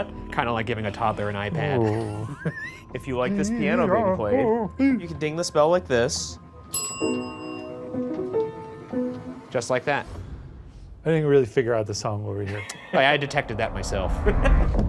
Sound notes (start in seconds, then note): 6.7 bell dings